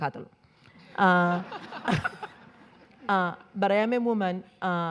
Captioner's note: all laughing